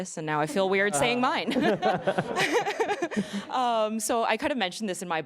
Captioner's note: laughing